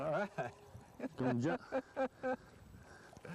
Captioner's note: laughter